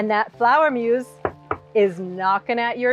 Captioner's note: hand knocking